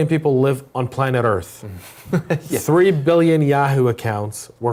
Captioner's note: laugh